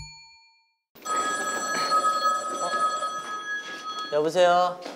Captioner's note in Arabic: الهاتف يرن مرة اخرى